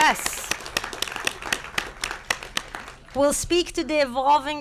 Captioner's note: applause